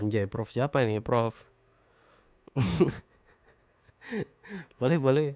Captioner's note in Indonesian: tertawa